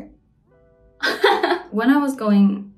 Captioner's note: laughs